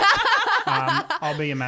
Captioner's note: laughing together